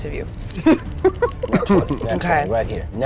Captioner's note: laughs